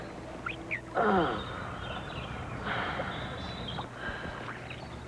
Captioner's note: yawns